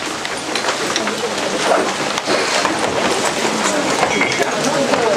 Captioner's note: background chatter